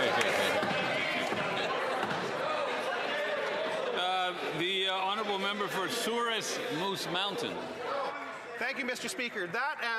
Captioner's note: some Applause